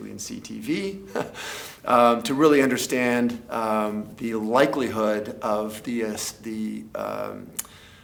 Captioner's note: laugh